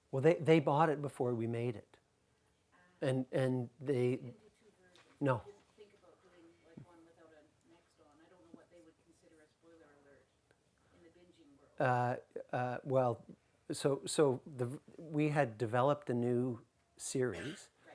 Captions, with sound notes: - Well, they bought it before we made it. - [Voiceover] The two versions. - No. - [Voiceover] Just think about doing like one without the next on, I don't know what they would consider a spoiler alert in the binging world. - We had developed a new series